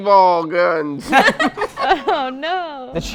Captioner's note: laughter